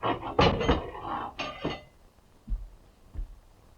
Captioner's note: crowbar rattling